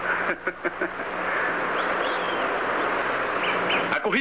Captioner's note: chuckles